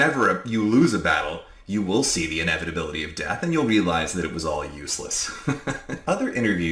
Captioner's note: laughs